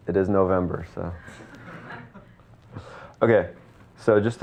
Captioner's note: audience laughing